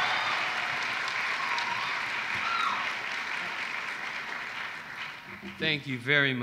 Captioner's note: applause